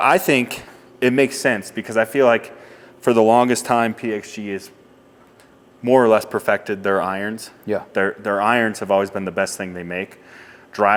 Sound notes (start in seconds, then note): none